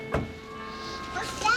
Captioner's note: door shuts